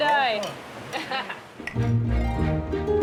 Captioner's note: chuckles